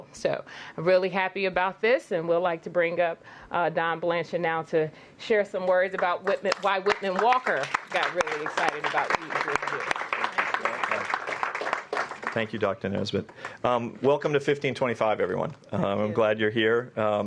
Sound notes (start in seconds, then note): 11.5 applause